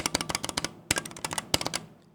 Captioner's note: keyboard clicking